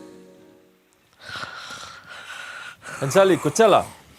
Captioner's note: snores